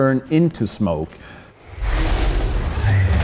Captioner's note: growling